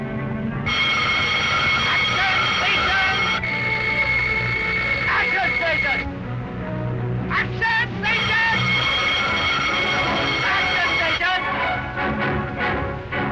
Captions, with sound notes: (bell ringing) - [Voiceover] Action stations! (loud buzzing) - [Voiceover] Action stations! Action stations! (dramatic music)